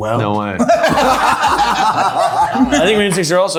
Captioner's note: everyone laughing